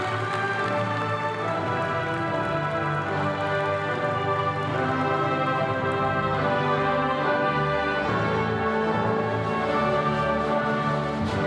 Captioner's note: applause